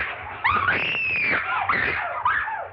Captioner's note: screaming